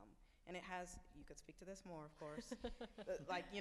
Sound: laughs

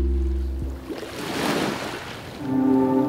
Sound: waves lapping; tranquil music

